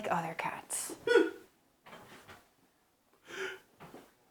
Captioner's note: Gerald cries